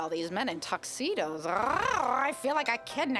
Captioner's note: purring